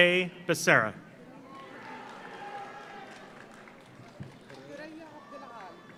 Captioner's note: audience cheers; audience applauds